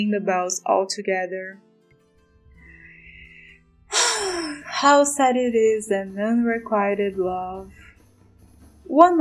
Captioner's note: sigh